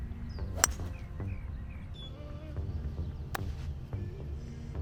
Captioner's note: man hits golf ball